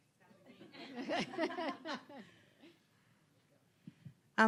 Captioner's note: audience laughing